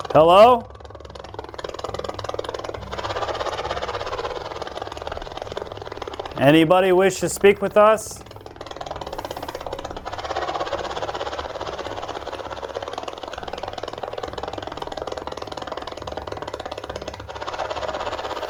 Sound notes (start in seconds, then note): 9.2 deep sputtering